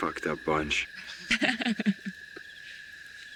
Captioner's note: Dawn Laughing